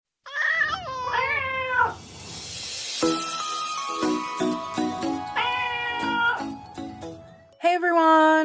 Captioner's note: meowing Cats